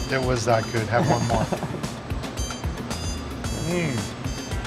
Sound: laughing

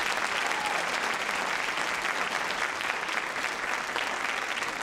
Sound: audience applauding

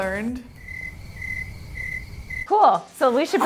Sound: crickets chirping

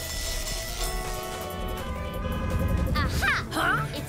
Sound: buzzing; horns honking

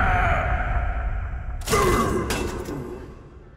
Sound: grunting; grunting

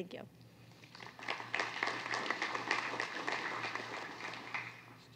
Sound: applause

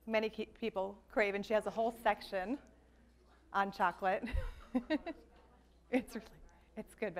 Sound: laughs

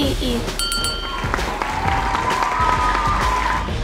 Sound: applause

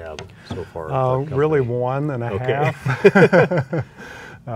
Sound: laughs

